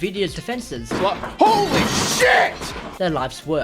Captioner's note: smash